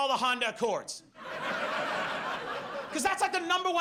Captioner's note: audience laughs